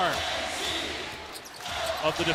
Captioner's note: cheers and applause